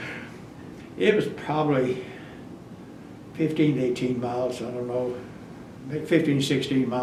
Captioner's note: laughs